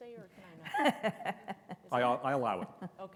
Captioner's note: laughs softly